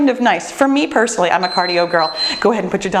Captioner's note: bell dinging